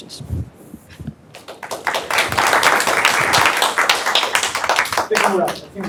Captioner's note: applause